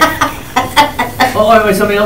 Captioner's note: attendee laughing